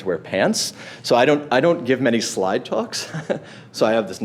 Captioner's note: laughs